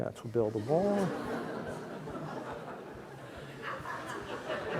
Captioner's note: audience laughs